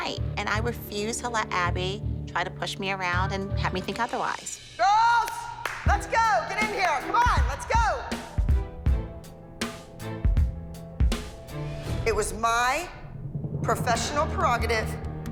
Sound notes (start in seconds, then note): 4.7 shouting; 7.9 upbeat techno